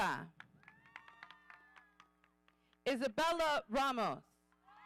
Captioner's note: audience cheering